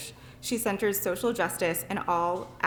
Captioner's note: none